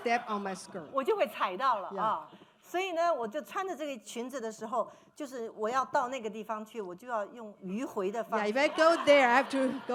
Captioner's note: speaking Mandarin